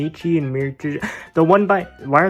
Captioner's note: audible breath that makes u feel uncomfortable